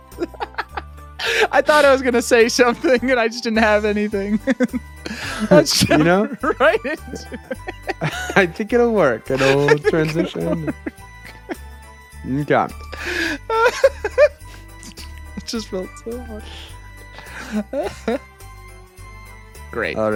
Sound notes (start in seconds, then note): 4.8 laughing; 12.8 laughing; 17.2 laughing